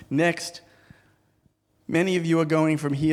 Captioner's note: none